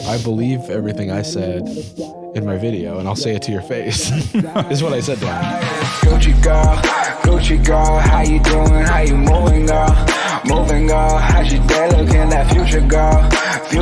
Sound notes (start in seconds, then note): 3.8 laughs; 6.0 outro music